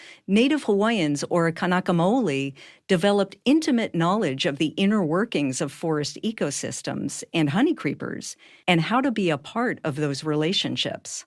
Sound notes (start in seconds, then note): none